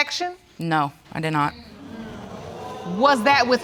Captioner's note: audience exclaiming